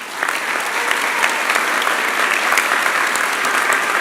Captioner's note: applause